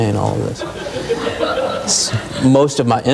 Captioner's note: audience laughing